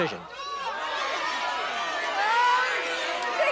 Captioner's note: audience shouting